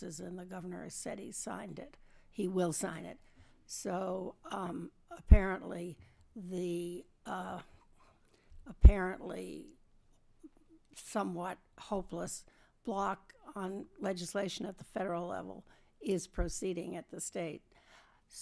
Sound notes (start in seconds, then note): none